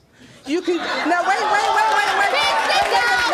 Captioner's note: audience shouting